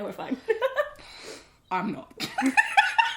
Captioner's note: laughs; both laugh